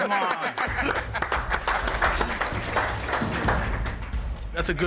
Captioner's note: applause